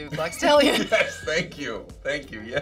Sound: both laugh

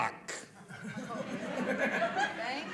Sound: laughter

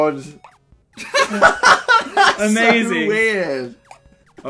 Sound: laughter

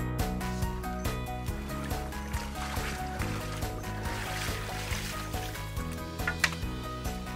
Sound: wading through water

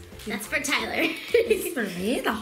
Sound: laughs

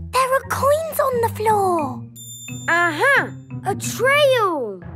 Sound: none

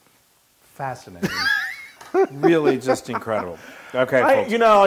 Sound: laugh

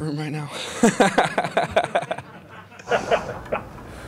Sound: chuckling

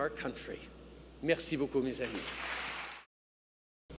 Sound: cheers & applause

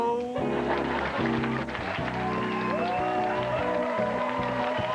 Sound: audience cheering and applause

